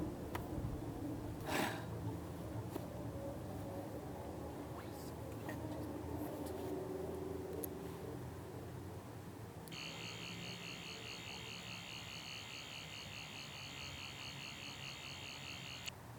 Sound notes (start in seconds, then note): 1.4 sighs